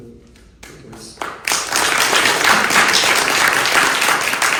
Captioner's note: applause